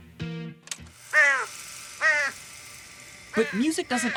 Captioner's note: raven cawing